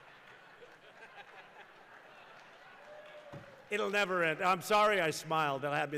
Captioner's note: laughter